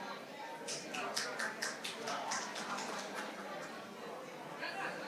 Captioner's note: participants chatter